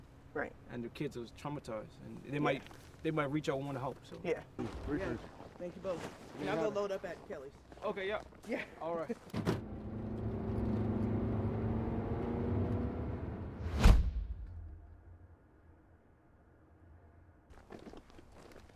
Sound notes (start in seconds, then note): 9.3 car doors shuts; 9.5 car accelerates; 13.5 whoosh; 17.5 foot steps